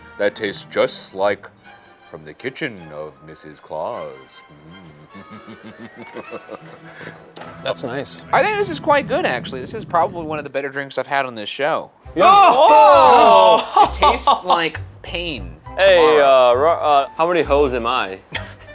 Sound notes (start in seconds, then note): 4.6 chuckling; 12.2 laughing